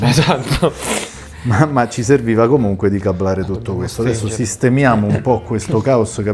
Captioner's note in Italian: risate